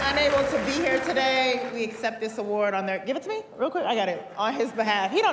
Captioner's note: cheers and applause